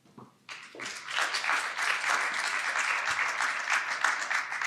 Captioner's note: audience clapping